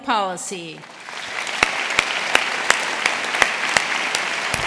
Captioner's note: audience applauding